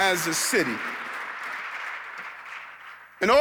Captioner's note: audience clapping